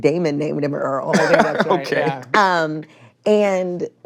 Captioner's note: laughs